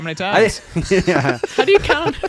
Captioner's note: laughing